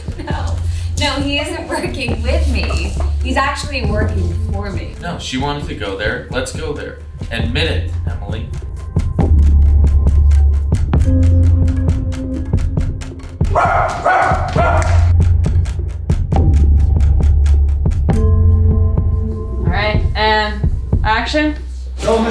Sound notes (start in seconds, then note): 8.5 dramatic music; 13.4 barking